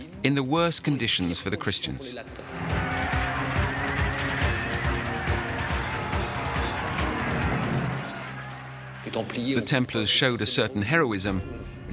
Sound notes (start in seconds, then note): 2.6 distant neighing; 4.2 distant shouting